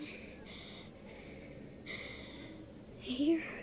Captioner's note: breathing deeply